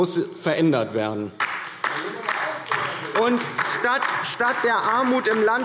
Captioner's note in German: Beifall DIE LINKE